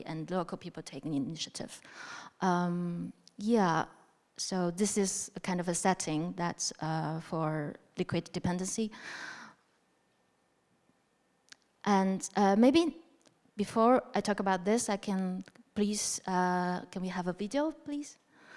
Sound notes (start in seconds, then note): none